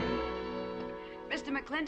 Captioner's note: sighs